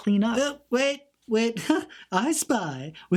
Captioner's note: laughs